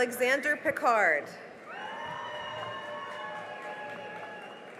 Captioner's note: cheering and applause